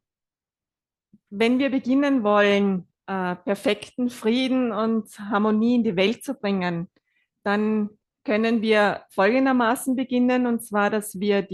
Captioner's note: German live translation